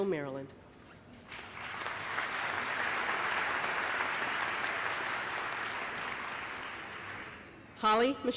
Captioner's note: applause